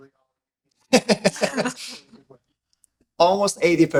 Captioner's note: panelists laughing